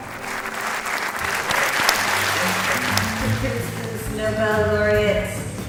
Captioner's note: audience applauds